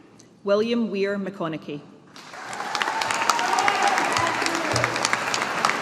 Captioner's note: audience applauding